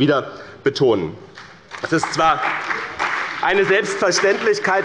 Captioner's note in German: Beifall bei dem BÜNDNIS 90/DIE GRÜNEN und der CDU